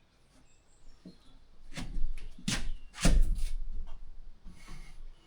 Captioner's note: thudding